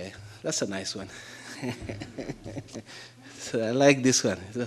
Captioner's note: audience laughing